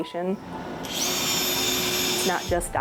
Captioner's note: drill whirring